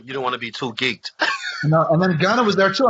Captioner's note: laughs